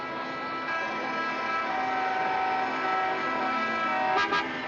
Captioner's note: horns Honking